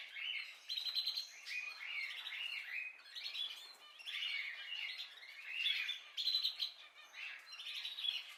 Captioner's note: birds singing